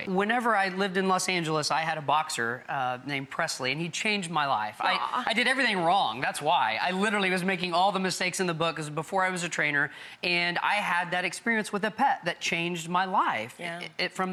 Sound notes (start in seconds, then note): none